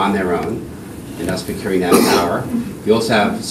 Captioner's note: coughing